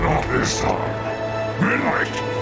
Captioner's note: roar